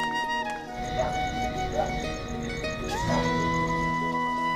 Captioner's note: Dog barking